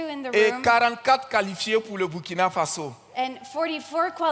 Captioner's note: continues in French